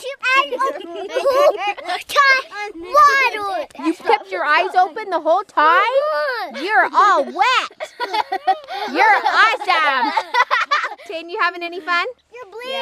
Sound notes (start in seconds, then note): 10.2 laughs